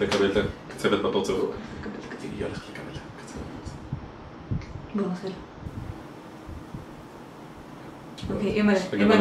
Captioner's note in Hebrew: לחשושים